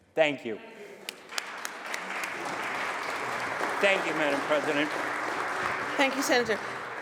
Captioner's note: applause